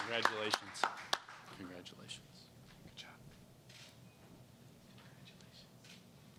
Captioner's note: applause